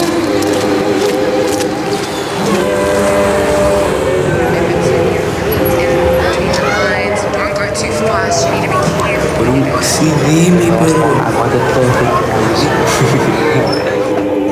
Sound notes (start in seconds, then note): 5.1 on phone; 9.4 non-english speech